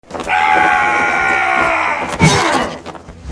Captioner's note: warrior screaming